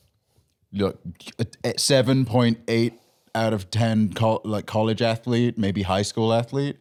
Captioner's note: stammering